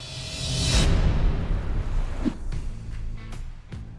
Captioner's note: dramatic music; air swooshing